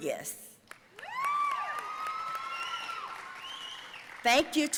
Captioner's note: audience cheering and applauding